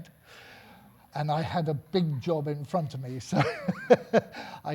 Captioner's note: laughing